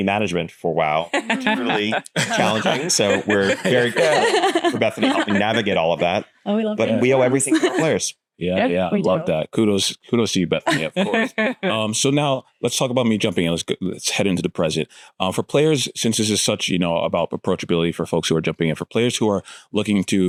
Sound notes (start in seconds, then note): 1.1 laughter; 10.6 laughter